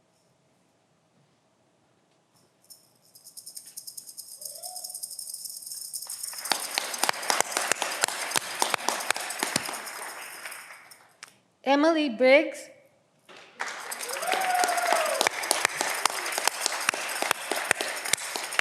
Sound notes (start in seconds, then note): 13.3 audience clapping